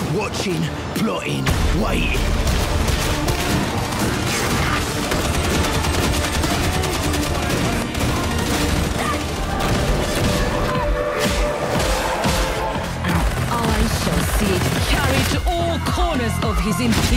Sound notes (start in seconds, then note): 2.6 group yelling; 2.6 guns firing